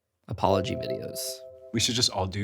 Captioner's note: text chiming; screen whooshing